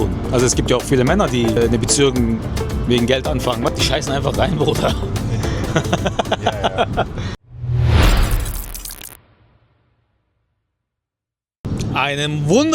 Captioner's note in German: gelächter